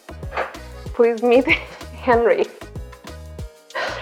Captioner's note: laughs